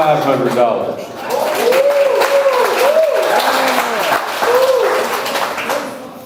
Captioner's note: audience applauds; audience cheers